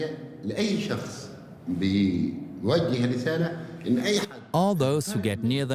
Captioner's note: in Arabic